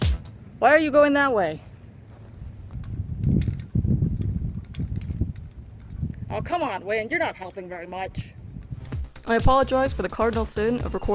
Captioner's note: wind Noise